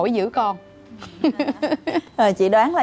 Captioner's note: laughing